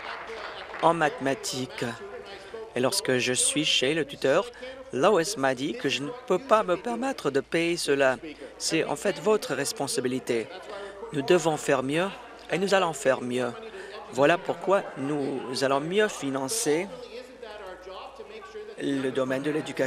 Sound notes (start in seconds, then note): 1.6 applause